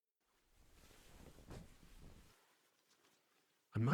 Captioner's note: bed rustle